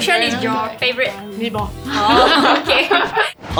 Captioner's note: laughs